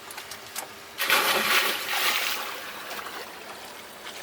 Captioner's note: water splashing